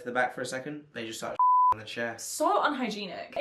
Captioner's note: beep